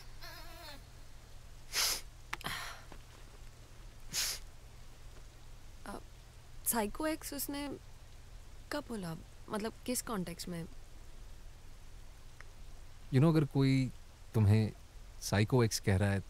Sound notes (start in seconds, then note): 1.7 sniffs; 4.1 sniffs